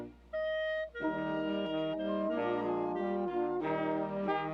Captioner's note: none